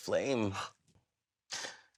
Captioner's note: gasps